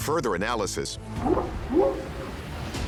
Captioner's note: whooping sound